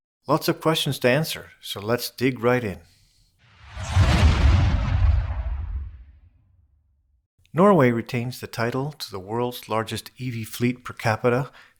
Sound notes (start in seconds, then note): 3.5 rocket Launches